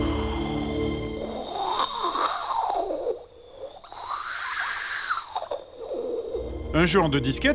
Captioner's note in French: bruitage de vent